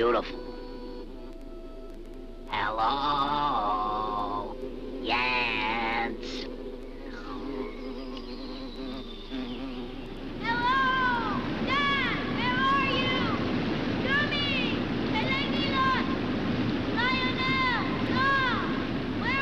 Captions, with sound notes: Hello! Jens! (water roars) - Hello! Dad, where are you? Dummy, Pellegnillot, Lionel, Doll, where are you all?